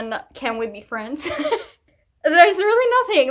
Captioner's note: laughs in shyness